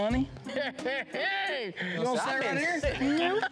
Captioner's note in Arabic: ضحك